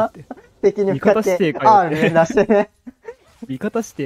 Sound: laughs

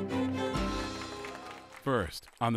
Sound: applauding

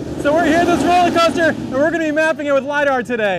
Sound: coaster rumbling

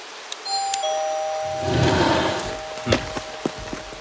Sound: doorbell ringing

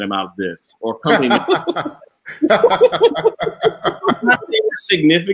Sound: laughing

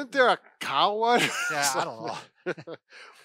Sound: laughing

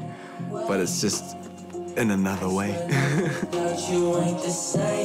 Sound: laughs

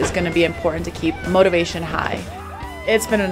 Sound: athlete shouts; athletes cheer

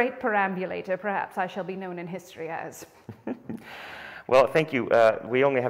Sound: chuckles

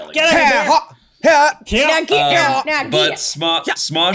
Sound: yelling

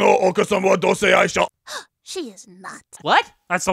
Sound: gasp of disbelief

